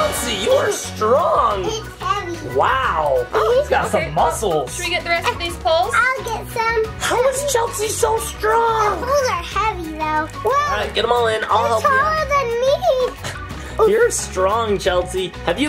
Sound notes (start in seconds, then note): 1.8 Chelsea giggles; 6.5 playful background music